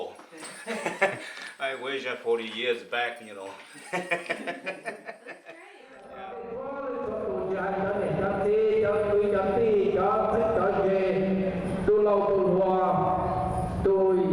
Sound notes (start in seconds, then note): 0.1 speaking Hmong; 3.4 laughs; 7.9 man speaking foreign language